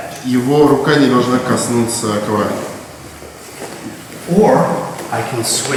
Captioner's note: speaking in a foreign language